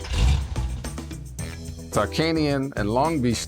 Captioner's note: car engine roaring